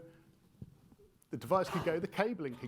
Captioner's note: attendee coughing